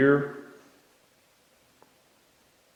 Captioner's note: silence